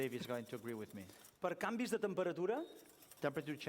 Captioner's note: non-english speech